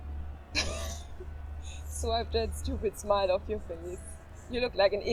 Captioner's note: chuckles